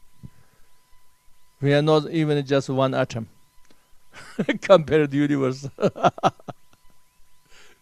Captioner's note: laughs